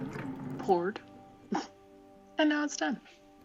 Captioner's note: chuckle